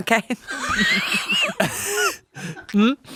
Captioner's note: everyone laughs